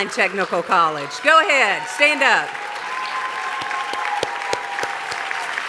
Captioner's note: applause